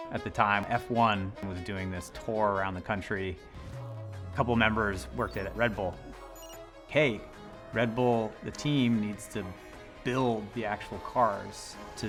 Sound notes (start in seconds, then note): 5.0 device beeping